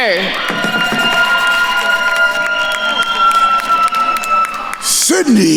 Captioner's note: attendees cheering and applauding